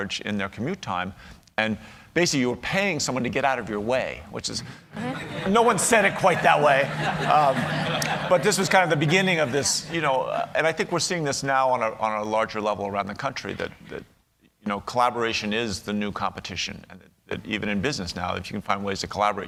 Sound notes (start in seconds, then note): 5.0 laughter